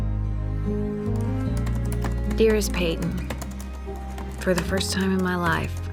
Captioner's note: typing